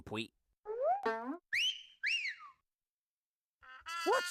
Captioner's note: Elmer whistling